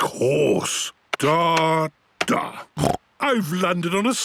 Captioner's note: snorts